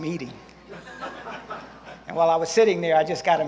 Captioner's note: scattered laughter from audience